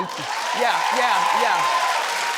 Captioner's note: audience applauds